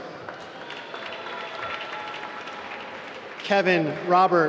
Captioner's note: applause